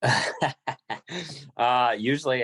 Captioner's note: laughing